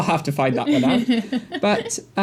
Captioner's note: chuckling